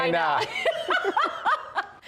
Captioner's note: laughter